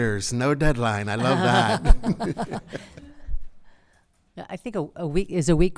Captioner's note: group laughs